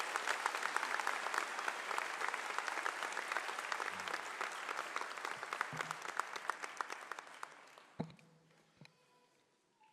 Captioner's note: applause